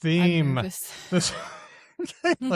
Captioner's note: laughter